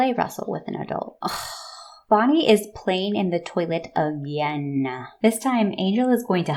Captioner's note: exasperated sigh